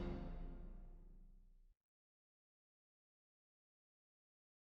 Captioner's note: exit music; silence